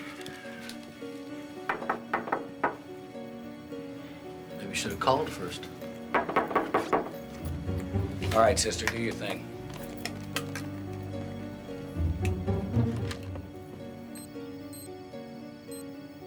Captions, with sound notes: Maybe you should have called first. All right, sister, do your thing. (electronic beeping)